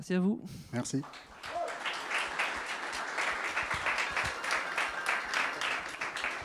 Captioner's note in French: applaudissements